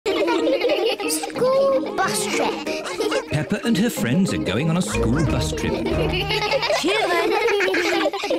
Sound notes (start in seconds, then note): 0.0 giggling